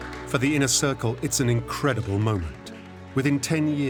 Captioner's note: applause